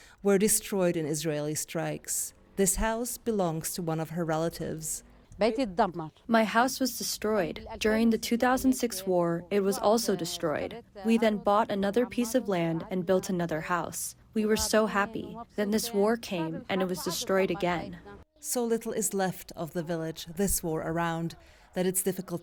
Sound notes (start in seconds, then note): 6.9 through translator